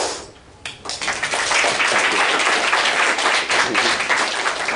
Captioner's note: applause